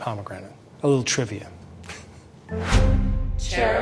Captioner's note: laughs